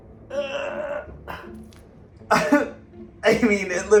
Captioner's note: grunts